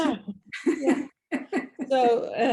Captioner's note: laughs